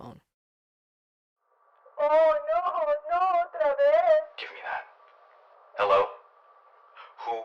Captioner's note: phone call